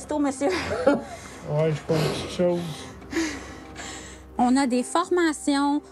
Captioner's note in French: rires